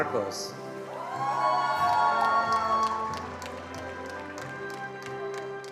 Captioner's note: attendees cheering and applauding